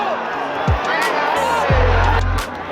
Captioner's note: protesting crowd